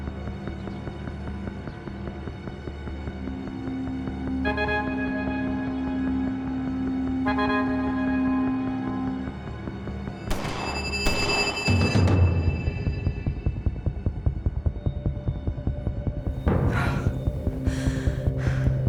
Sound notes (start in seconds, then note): 10.3 distant gunshots; 16.4 breathing heavily